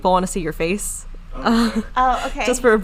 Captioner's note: laughing